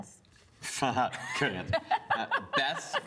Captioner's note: laughs